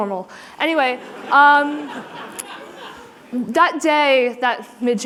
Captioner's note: laughter